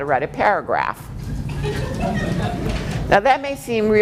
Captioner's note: laughing